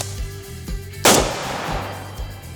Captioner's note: gunshot